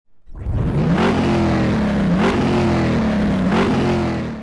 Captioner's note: engine racing